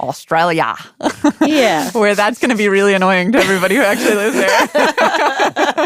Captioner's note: laughs